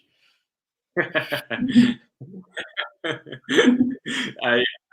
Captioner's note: both laugh